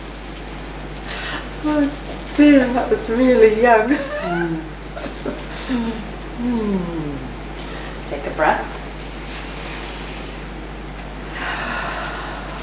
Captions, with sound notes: - Oh dear, that was really young. (laughs) - Take a breath. (breathes deeply)